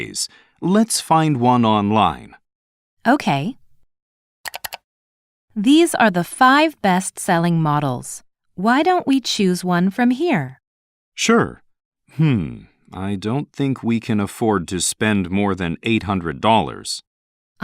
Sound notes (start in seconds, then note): 4.5 clicking sound